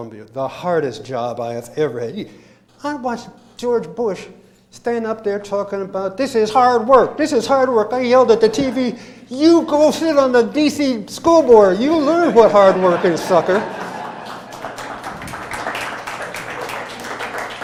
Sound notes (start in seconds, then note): 12.2 laughter; 13.5 applause